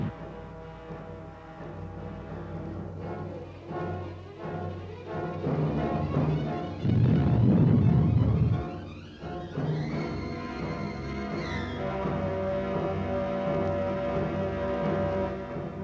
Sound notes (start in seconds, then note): 0.0 malevolent music continues; 6.8 explosives boom